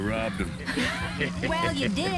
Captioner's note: girls and Uncle laugh